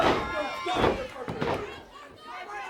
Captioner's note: crowd cheering